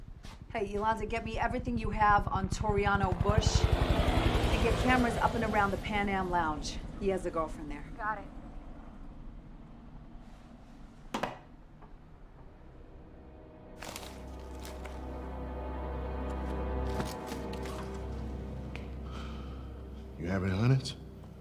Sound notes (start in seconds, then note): 18.8 exhales